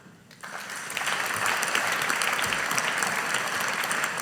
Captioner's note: audience applauding